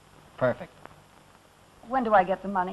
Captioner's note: none